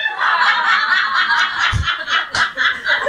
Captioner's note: laughing